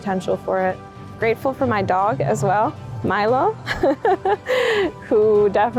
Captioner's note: chuckles